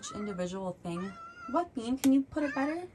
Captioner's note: Bean interrupts with multiple meows